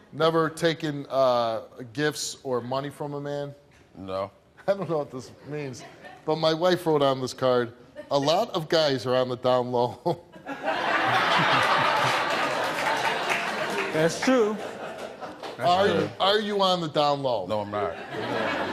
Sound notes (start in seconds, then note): 10.4 audience laughing